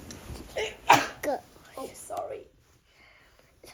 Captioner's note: sneezing